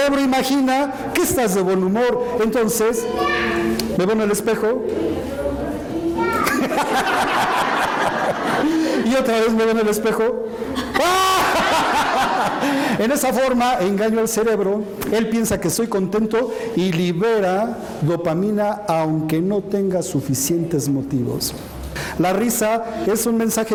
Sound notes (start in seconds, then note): 6.4 laughter; 10.7 laughter